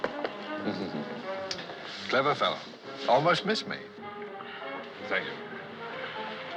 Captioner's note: chuckling